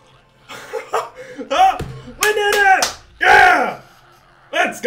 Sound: laughing

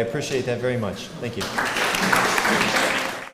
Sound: applause

